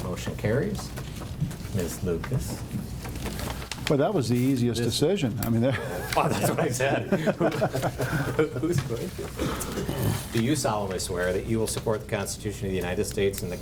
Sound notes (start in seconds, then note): 5.6 board members chatter and chuckle